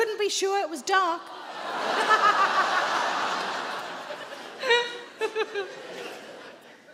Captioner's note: Sarah laughs; audience laughs